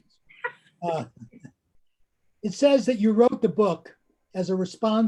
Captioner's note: both laughing